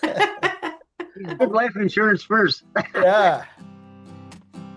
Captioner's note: laughs